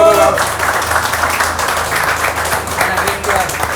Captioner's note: applause